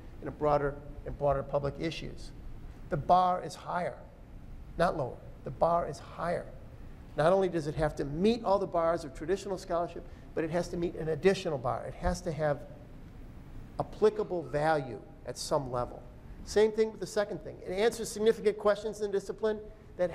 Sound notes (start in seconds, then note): none